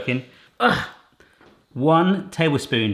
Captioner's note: grunts